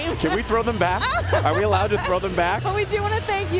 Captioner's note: laughter